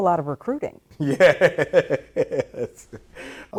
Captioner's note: laughing